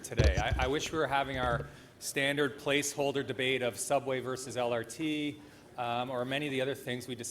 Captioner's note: speaker off mic